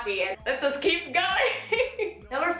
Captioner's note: laughs